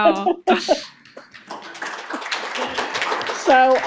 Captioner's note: applause